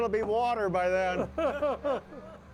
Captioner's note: hosts laughing